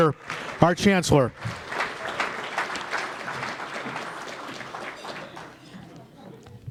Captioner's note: applause